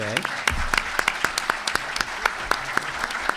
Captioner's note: applause